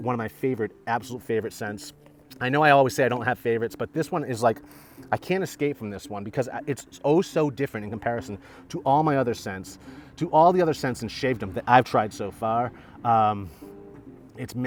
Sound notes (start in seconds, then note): 4.8 sniffs